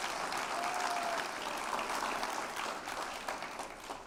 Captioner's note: applause